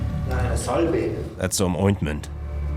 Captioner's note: German spoken audio